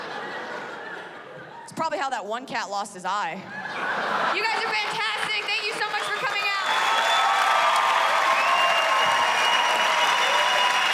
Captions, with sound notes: IT'S PROBABLY HOW THAT ONE CAT LOST HIS EYE. YOU GUYS ARE FANTASTIC. THANK YOU SO MUCH FOR COMING OUT. [cheers and applause]